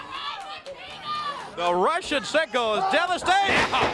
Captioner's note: crowd chatter